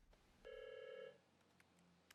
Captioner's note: phone rings